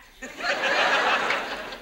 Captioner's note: audience laughs